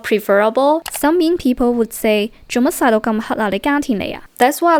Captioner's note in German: Kantonesisch